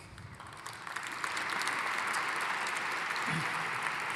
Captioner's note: audience applauding